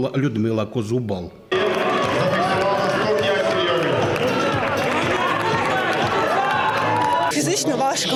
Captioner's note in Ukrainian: шум в залі